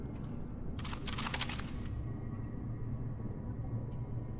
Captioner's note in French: les armes claquent